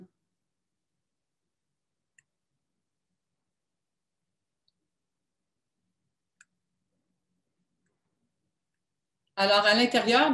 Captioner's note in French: silence